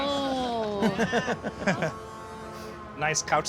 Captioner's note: laughter